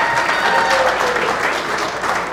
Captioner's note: applause